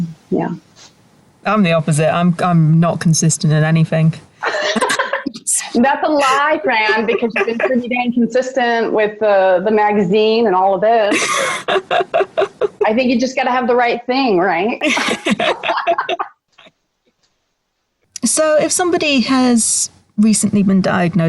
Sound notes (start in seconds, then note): 14.8 both laugh